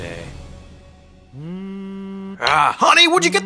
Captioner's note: phone vibrating